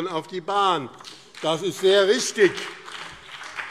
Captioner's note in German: Beifall BÜNDNIS 90/DIE GRÜNEN und vereinzelt CDU